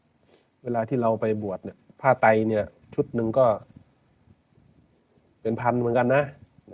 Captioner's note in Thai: เสียงสูดหายใจ